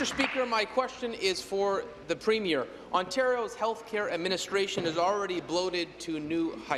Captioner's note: applause